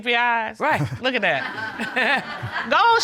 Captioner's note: chuckles